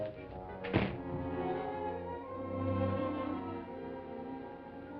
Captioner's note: door shuts